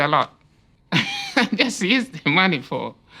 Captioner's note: laughs